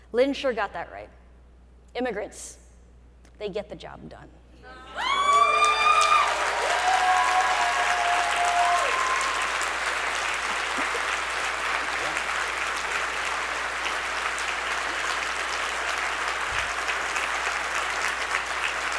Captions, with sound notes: Lin sure got that right. "Immigrants, they get the job done." (audience cheering) (audience applauding)